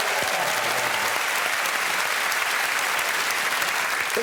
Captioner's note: applause